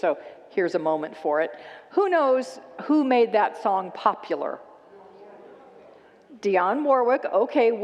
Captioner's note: congregants shout out answers